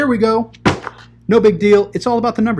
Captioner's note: books banging